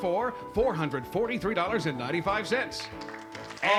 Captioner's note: applause